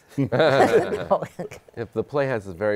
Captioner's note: laughter